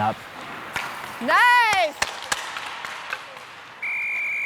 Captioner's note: hockey stick thumps; whistle blows